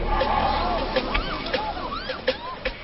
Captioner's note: woman screaming excitedly